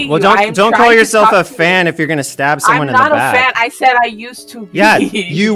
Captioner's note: laughs